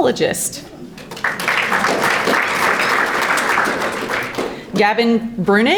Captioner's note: audience applauding